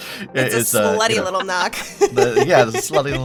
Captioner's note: chuckles